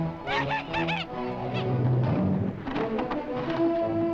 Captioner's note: Timotheus laughs